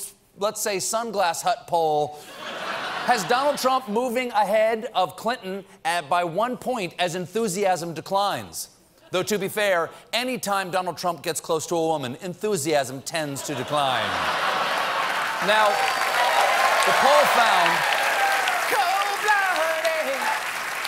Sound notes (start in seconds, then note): 14.0 cheers and applause